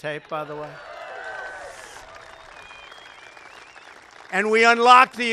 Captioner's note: applause